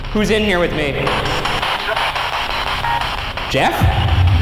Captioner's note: distorted speech